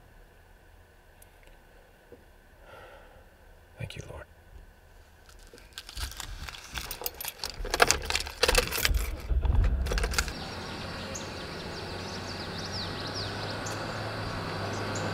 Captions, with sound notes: - Thank you lord. (birds chirping)